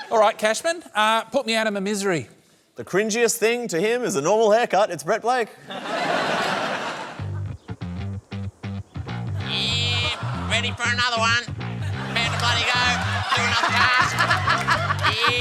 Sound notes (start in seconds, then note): 5.6 laughter; 9.8 thin voice; 13.9 laughs